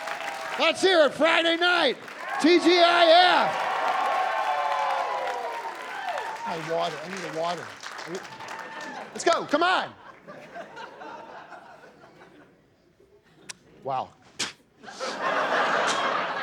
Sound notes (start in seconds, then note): 3.9 cheering and applause